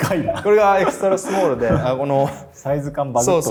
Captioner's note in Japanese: 笑い